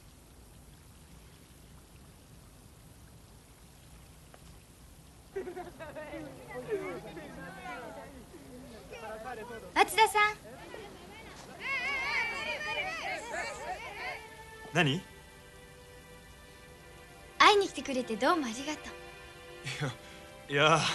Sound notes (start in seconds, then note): 11.4 applause